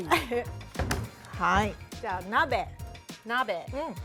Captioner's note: speaking Japanese